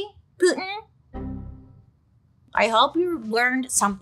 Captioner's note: tone dings